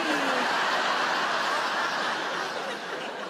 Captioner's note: audience laughing